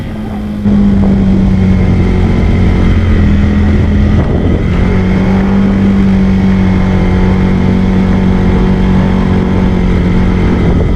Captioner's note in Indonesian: suara sepeda motor